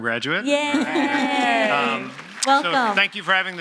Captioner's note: audience applauding